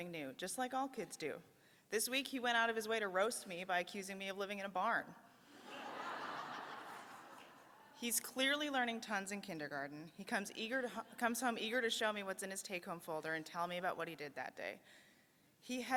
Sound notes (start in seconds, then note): 7.0 laughter